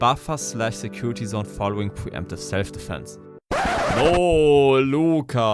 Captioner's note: mix of a German and Israeli accent